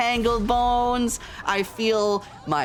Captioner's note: explosion sfx; police sirens and panic sfx